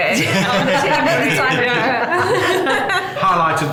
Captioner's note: laughing